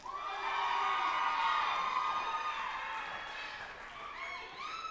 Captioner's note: group applauding and cheering